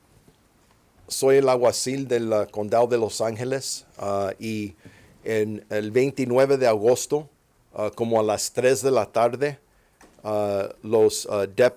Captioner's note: speaking Spanish